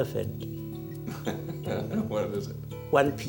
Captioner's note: laughs